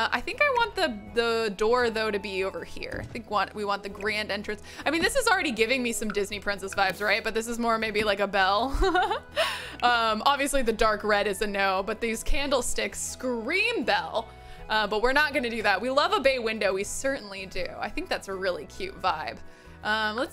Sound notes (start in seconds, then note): 8.8 laughs